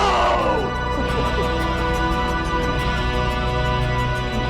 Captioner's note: laughs